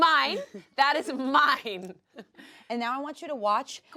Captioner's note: laughs